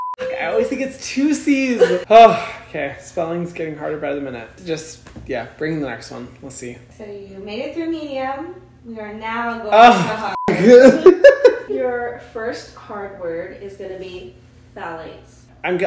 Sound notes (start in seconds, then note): 0.0 beep; 9.8 laughing; 10.3 beep